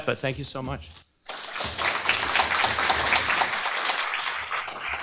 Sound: applause

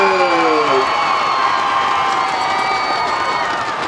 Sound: stick clapping; cheering

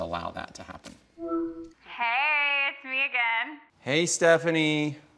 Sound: on phone

